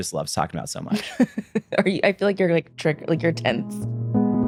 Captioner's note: chuckles